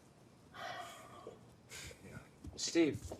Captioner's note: Louis sighs